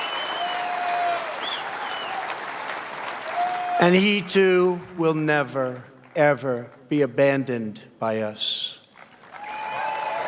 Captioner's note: cheers and applause